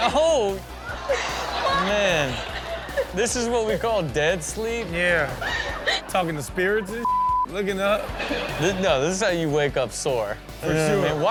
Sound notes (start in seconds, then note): 7.0 beep